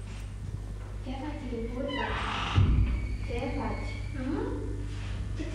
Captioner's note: in foreign language